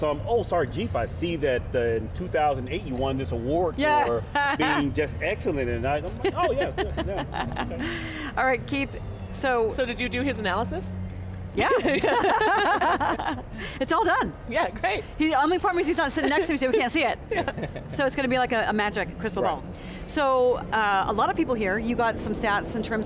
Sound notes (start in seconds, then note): 11.6 laughing